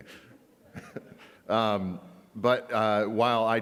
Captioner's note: laughs